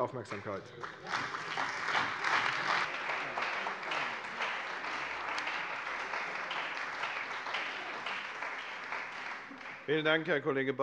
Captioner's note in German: Beifall bei der CDU, dem BÜNDNIS 90/DIE GRÜNEN und der FDP